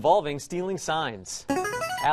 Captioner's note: player buzzer